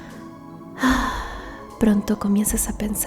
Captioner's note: sigh